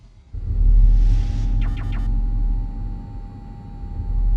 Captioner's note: device beeps